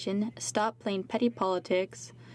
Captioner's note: speaking French